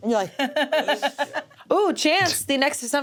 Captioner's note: laughs